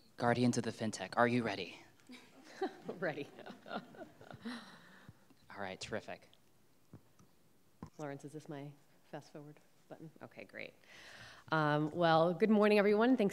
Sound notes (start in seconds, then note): 2.1 laughing; 2.2 audience laughing